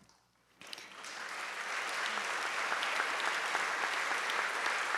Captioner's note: audience clapping